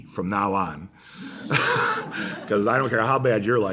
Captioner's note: laughter